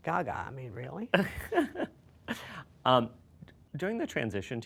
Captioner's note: laughing